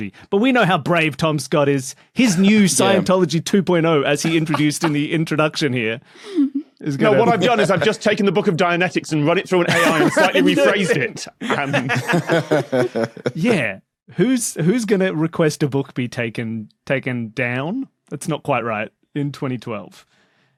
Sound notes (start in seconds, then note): 4.2 cracks up; 9.6 guests laughing